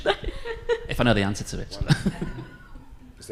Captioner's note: laughs